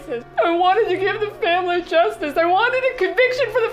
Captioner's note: crying